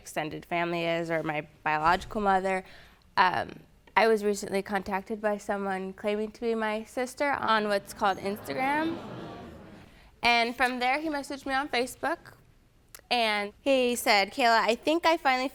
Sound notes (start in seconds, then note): 7.4 audience murmuring